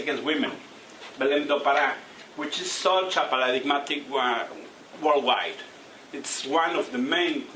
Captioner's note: non-english speech